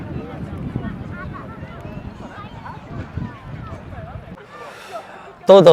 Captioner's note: people speaking